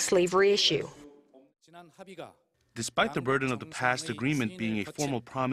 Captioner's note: Korean